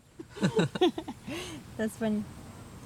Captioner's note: laughing